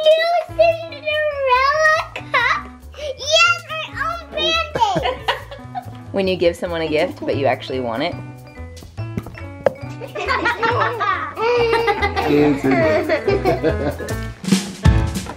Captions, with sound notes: - I new Cinderella cup. Yes, my own band aids. - When you give someone a gift, but you actually want it. (laughter) (upbeat music)